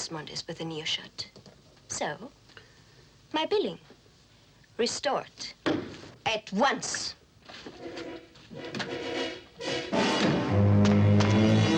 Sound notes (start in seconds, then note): 5.7 thumps table; 8.0 dramatic orchestral music